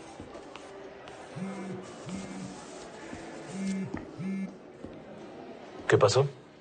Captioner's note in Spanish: Vibra un teléfono